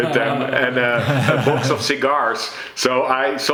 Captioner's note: laugh